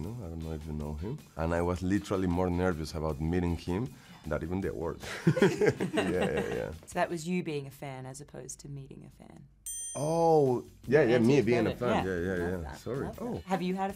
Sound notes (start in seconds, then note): 5.0 both laughing; 9.6 bell dinging